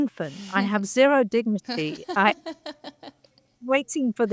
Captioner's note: panelists laughing